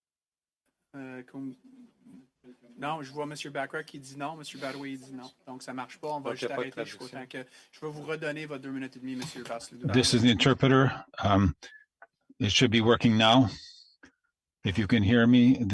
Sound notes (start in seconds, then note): 3.3 speaking French